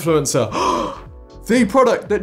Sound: gasping

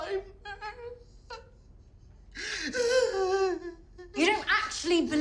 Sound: sobbing

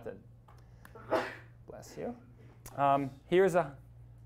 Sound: student sneezes

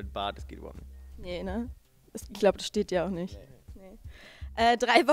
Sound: sarcastically

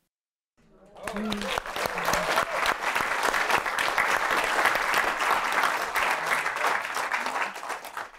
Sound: applause

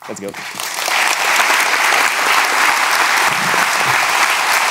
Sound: audience applauds

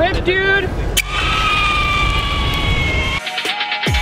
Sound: squealing; intense music

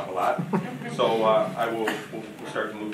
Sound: audience chuckling

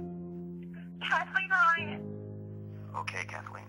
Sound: Kathleen On Phone

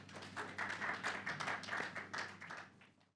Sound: audience clapping

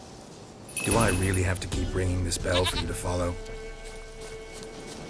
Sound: rings bell

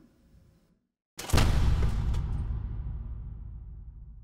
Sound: boom

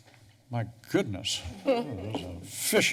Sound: laughter

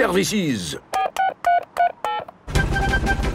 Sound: dialing

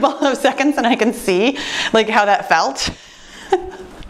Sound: laughing

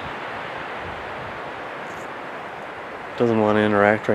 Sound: wind whooshing

